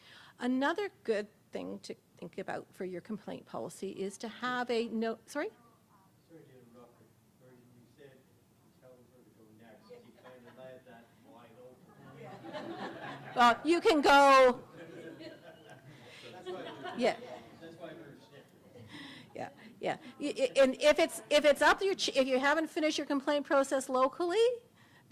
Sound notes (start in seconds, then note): 7.4 audience laughter